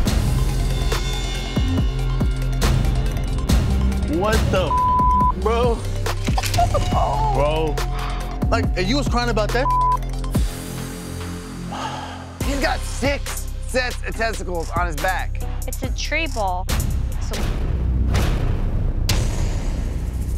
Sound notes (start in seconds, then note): 0.2 dramatic rhythmic music; 11.7 man sighs; 17.4 dramatic music